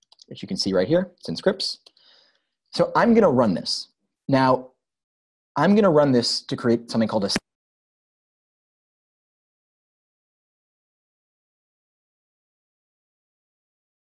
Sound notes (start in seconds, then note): 8.4 audio cuts off